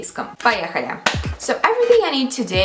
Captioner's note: clapps